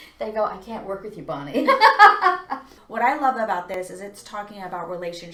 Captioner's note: laughs